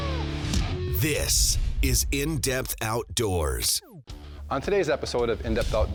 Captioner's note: voiceover